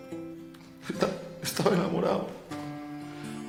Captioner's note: sobbing